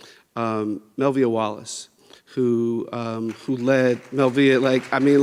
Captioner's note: people clapping